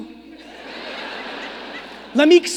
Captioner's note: audience laughing